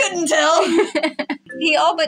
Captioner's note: laugh